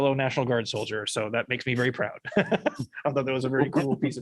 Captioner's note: laughter